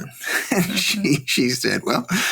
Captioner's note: laughing